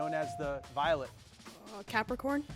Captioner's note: bell dings